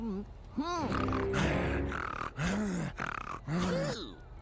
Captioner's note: humming; panting